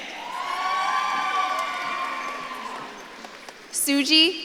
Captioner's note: audience claps and cheers